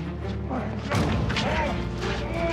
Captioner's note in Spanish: puñetazos